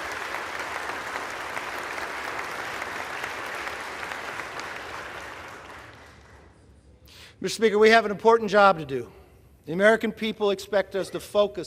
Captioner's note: applause